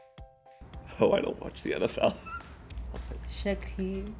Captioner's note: laughs